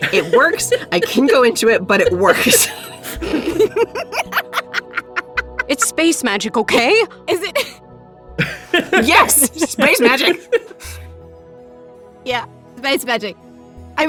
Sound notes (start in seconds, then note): 3.3 cackles; 10.9 laughs